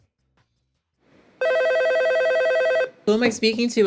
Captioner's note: phone ringing